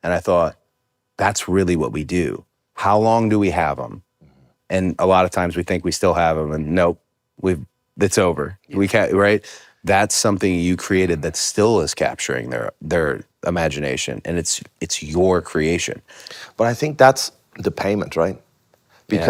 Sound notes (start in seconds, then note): none